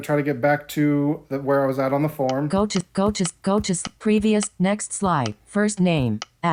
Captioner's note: click